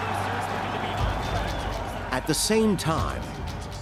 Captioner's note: radio chatter, crowd cheering